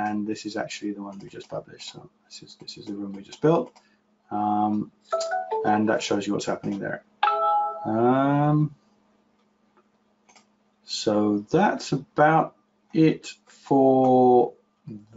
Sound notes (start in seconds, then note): 4.2 chimes